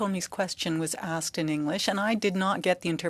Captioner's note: speaking french